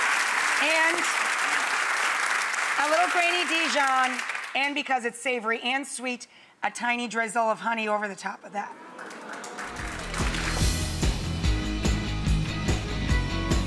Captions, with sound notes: and a little grainy Dijon, and because it's savory and sweet, a tiny drizzle of honey over the top of that. (audience applauding) (lighthearted music)